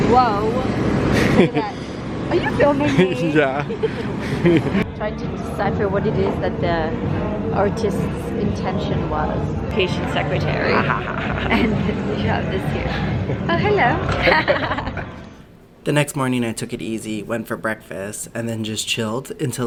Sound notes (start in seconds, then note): 10.6 laughing; 12.9 both laughing